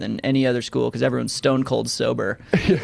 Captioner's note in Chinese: 笑声